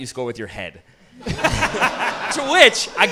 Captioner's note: audience laughing